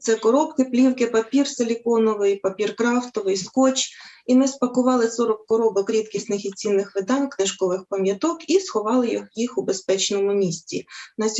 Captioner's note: foreign Language